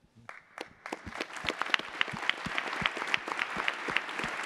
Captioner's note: attendees applauding